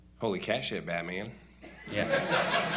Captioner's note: laughter